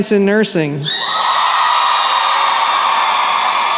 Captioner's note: cheering